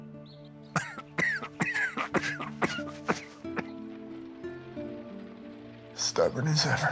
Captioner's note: rufus coughs